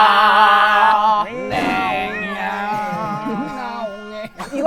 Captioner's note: Sound effect fit for King Of the Zungle